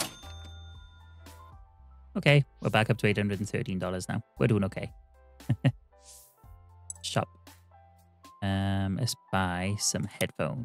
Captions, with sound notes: Okay, we're back up to $813 now. We're doing okay. (chuckles) Shop. Let's buy some headphones.